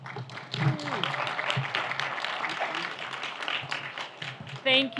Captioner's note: audience applauds